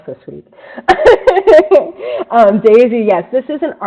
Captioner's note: laughs